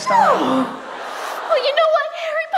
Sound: audience laughs

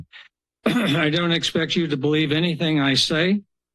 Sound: clears throat

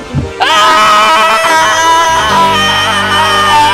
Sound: screaming

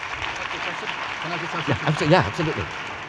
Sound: audience applauding; speaks faintly

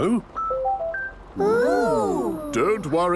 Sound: car chiming

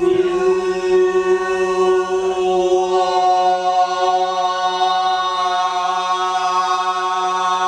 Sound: indistinct chatter

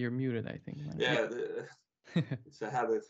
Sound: chuckles

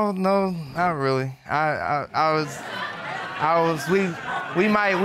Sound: audience laughing

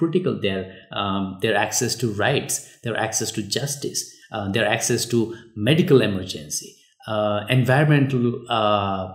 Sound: uh

